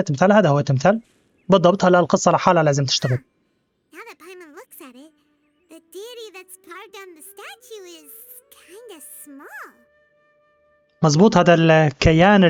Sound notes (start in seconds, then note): 1.0 birds chirping; 9.6 soft music